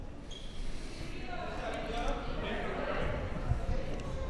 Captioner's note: crowd murmuring